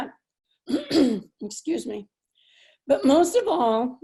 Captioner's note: clears throat